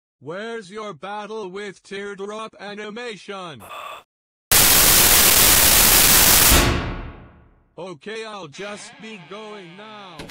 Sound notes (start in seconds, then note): 3.6 sigh; 4.5 loud static-y screech